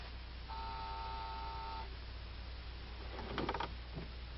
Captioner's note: machine beeping